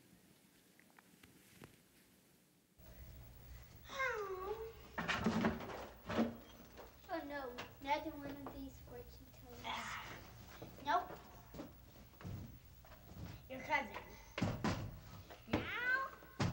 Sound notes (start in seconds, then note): 5.0 clatter; 14.3 thud